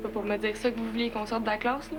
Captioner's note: none